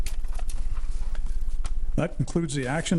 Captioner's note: paper shuffling